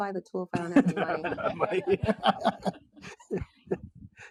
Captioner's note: group laughing